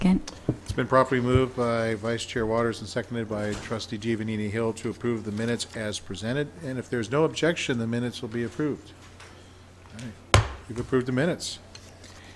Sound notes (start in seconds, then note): 10.3 smacks gavel